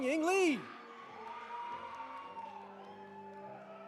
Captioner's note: audience applauding; audience cheering